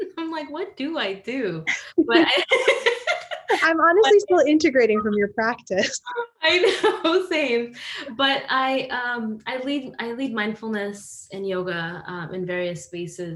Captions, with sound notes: I'm like, what do I do? (panelists laughing) - I'm honestly still integrating from your practice? - I know, the same. But I lead mindfulness and yoga in various spaces